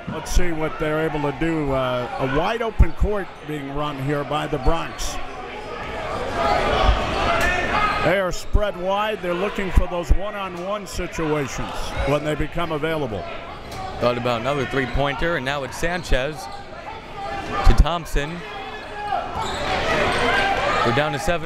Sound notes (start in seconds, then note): 5.0 crowd members shouting; 18.1 crowd members shouting